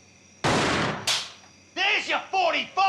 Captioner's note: gun fires